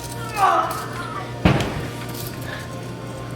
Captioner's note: groaning